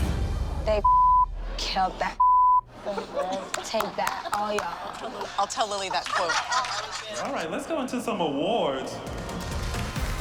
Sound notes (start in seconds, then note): 3.5 woman clapping; 5.2 laughter; 9.6 applause and cheering